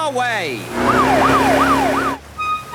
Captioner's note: siren wailing